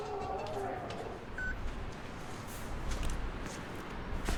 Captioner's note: door opening; quiet beeps continue